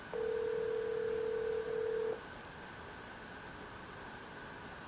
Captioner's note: ring